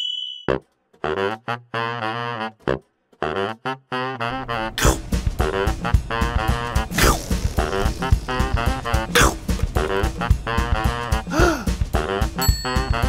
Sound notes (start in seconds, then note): 0.3 tuba music; 4.6 chomp; 11.2 gasp